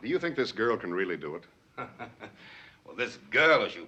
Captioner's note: chuckles